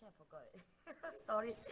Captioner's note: laugh